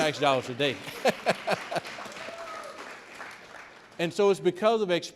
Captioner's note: audience clapping